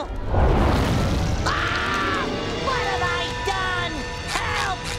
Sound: screaming

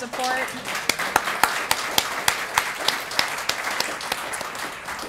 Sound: applause

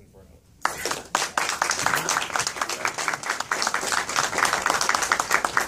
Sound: applause

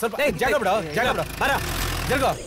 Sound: car Sound

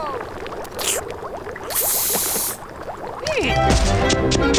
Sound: spitting; playful music begins

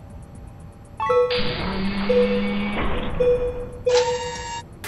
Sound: beeping alarm

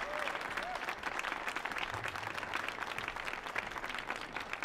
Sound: audience applauding

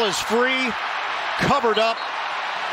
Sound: whistle blowing

